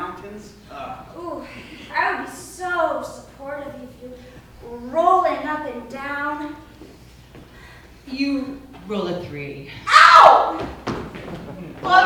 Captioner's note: Whitney Screams